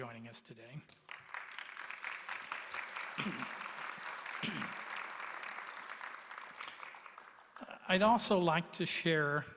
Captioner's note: applause